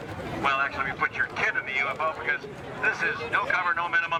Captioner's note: none